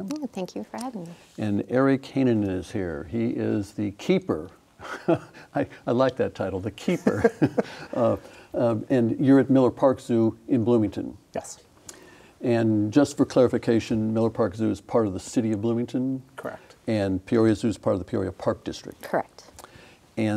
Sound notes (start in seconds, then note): 4.5 laughs